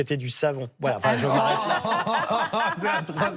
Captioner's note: laughs